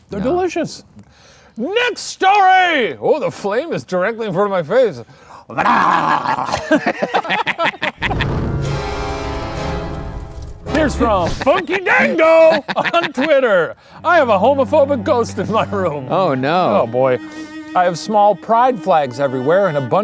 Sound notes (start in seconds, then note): 5.5 laughing; 8.0 ominous music